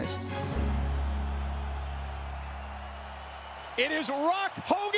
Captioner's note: crowd murmuring